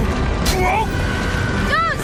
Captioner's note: loud rumbling